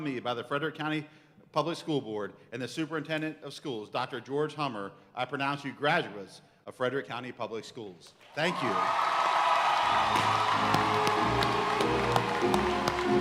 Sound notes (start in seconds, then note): 8.3 audience cheering and applauding; 9.8 band music